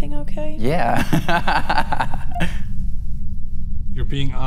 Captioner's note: laughs